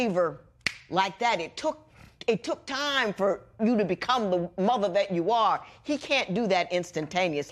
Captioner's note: snaps